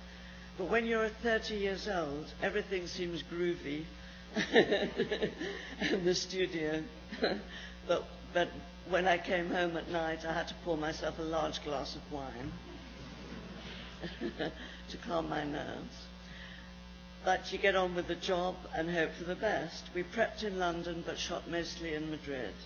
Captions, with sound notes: But when you're 30 years old everything seems groovy. [laughs] The studio [laughs] but, but when I came home at night I had to pour myself a large glass of wine [laughs] to calm my nerves. But you get on with the job and hope for the best. We prepped in London but shot mostly in Madrid.